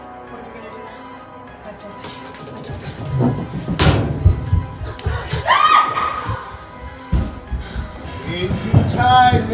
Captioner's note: Erin screams